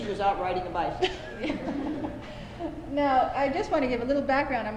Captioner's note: laughter